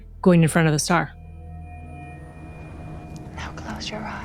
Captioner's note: whispers